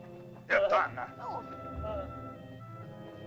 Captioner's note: Akhoba angrily speaks in caveman language; soft dramatic music